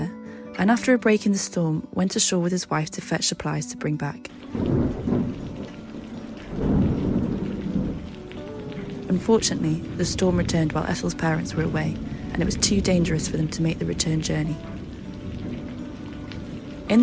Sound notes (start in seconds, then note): 4.5 thunder